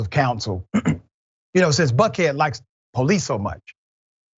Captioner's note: cough